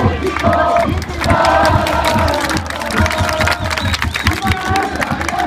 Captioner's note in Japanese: 拍手